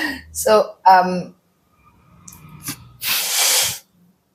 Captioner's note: laughs; sniffs